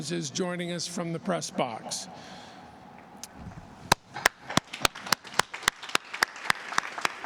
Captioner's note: applause